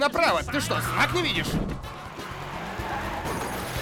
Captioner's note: tires screeching; glass shatters